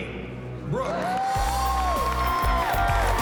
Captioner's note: cheering